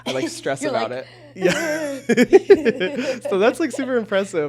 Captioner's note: chuckles